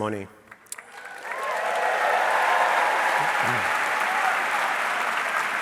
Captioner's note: audience cheering